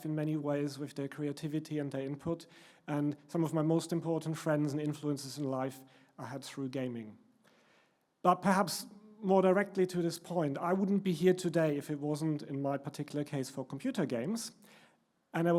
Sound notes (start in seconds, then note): none